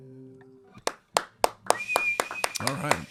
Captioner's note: clapping; whistling